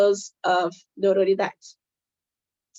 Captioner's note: speaking Portuguese